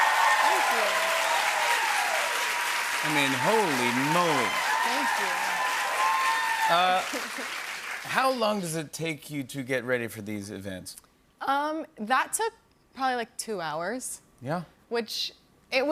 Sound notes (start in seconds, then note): 1.1 cheers and applause; 5.5 cheers and applause continues